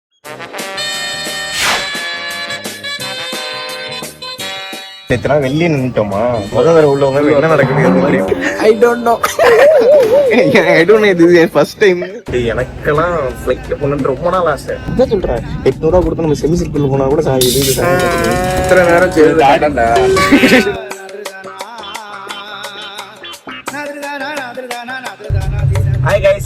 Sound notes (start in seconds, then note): 10.1 laughs